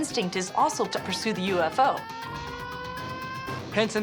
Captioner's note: siren blaring